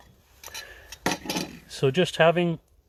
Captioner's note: jar clatters